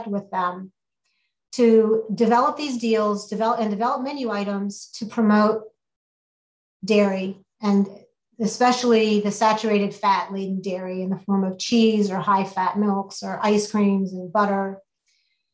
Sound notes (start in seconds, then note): none